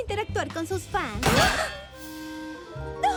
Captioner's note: crash